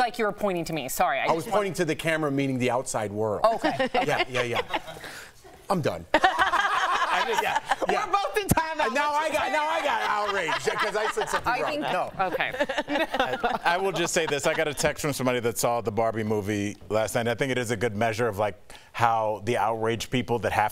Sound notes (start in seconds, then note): 11.0 laughter; 14.6 laughter